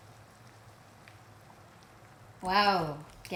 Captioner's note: bubbling